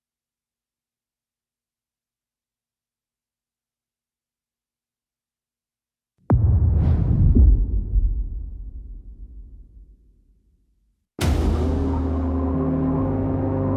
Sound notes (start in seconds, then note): 8.9 dramatic sound